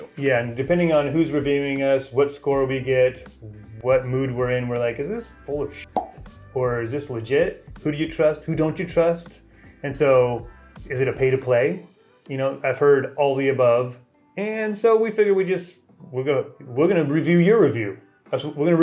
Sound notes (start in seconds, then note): 5.9 pop